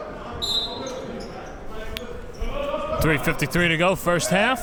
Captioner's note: whistle blows